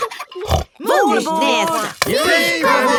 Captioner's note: snort